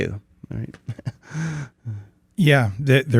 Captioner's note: laughs